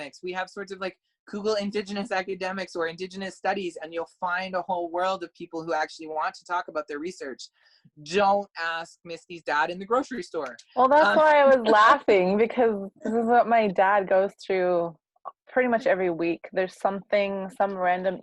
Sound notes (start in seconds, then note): 10.9 laugh